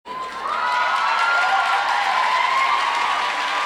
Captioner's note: crowd applauds